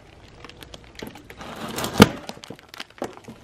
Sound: pop

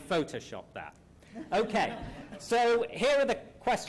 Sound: laughter

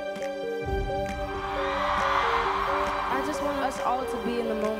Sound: cheering

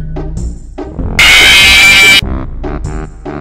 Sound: Screech

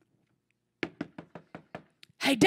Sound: knocking on door

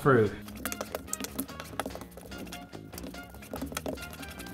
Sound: tapping

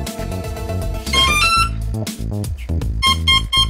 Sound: beeping

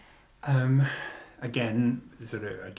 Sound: sighs

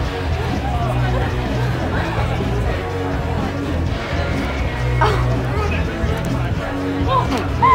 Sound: party sounds, laughter

